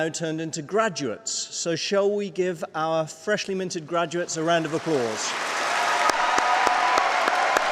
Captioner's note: applause